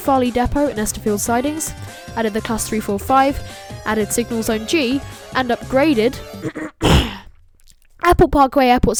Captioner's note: clears throat